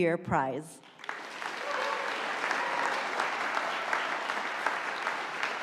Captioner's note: audience applauding